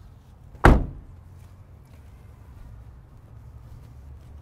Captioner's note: car door thuds